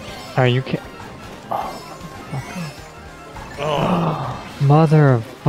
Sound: frustrated honking

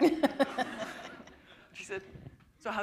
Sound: laughter

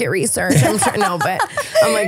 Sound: laughing

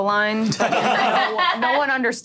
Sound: all laughing

